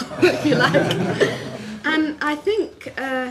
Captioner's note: laughter